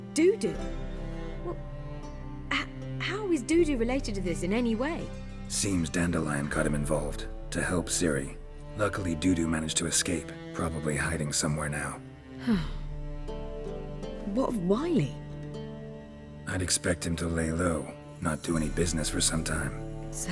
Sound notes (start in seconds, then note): 12.4 relieved sigh